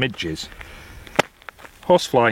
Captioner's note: slaps leg